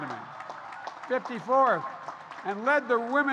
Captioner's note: applause